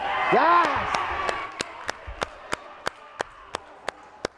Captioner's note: cheering